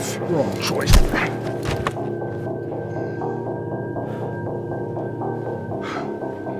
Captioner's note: fist thuds